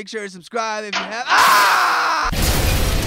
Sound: screaming

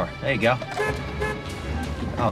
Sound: horn honking

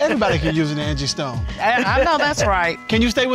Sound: chuckles

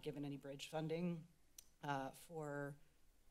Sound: clicks Tongue

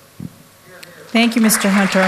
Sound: applause

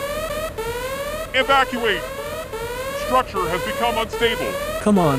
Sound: siren sounds

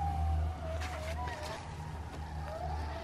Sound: jackals are howling

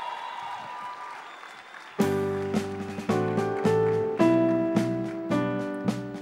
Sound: applause

